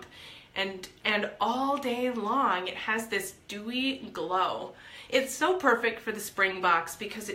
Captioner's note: none